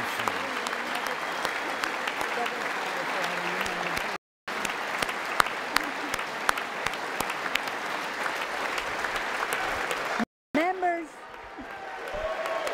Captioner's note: applause